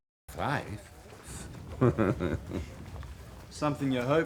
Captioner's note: laughing